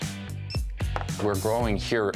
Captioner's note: beeping sound